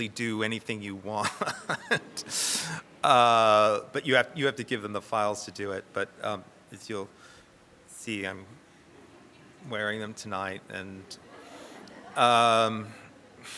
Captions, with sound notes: do anything you want, but you have to give them the files to do it; but um, as you'll see, I'm wearing them tonight. [audience laughs]